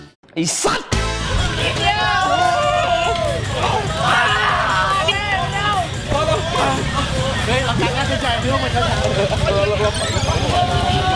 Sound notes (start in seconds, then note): 4.1 screaming from coldness